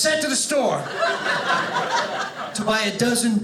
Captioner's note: audience laughing